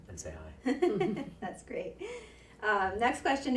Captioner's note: laughs